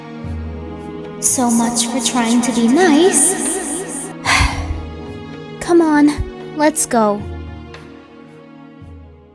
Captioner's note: sighs; sighs then speaks